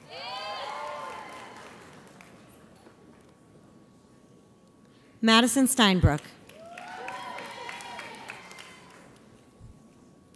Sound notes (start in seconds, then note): 0.5 audience applauds; 6.6 audience cheers